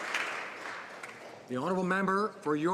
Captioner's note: some Applause